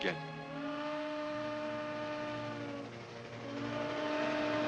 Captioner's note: train whistles